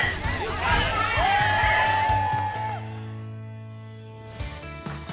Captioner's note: crowd cheering; upbeat music